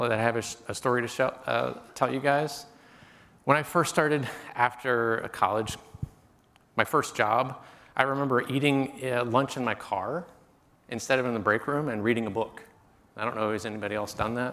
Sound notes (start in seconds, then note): none